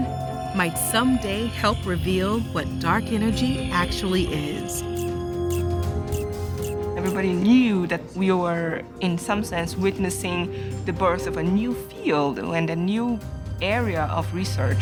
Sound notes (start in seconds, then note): 5.0 camera clicking